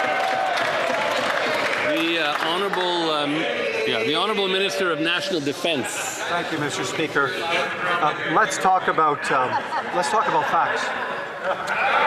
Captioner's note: some Applause